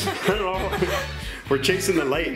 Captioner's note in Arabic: يضحك